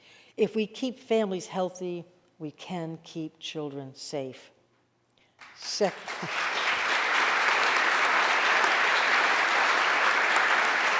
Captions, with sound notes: If we keep families healthy, we can keep children safe. (audience applauding)